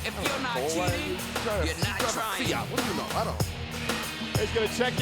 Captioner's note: Eddie muttering